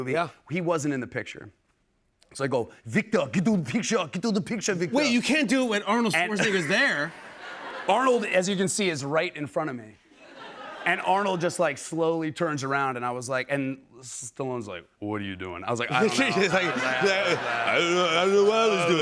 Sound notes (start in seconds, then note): 7.7 normal voice; 14.1 as Stallone; 15.4 normal voice